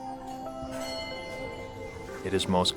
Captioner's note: bell ringing